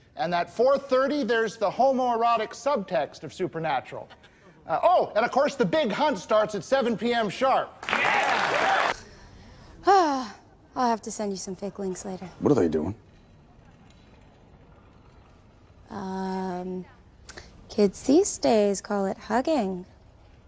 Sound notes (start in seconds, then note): 7.8 cheers and applause; 9.9 sighs